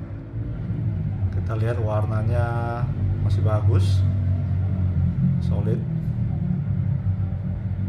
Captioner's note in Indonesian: suara mesin motor